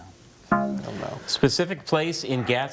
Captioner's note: bell blares